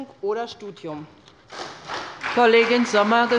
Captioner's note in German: Beifall bei der SPD